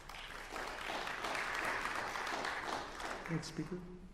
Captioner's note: applause